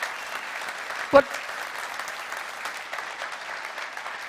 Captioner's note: applause